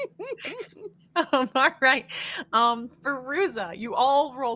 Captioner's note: laughing